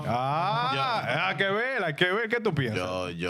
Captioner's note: speaking In Spanish